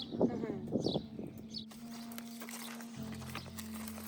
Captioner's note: birds chirping; chuckles